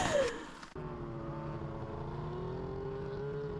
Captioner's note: snowmobile engines accelerating